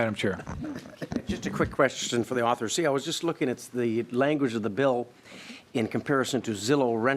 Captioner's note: laughing